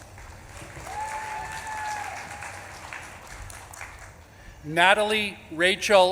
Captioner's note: audience claps and cheers